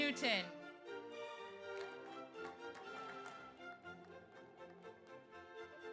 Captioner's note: audience applauds